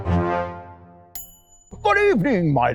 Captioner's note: ding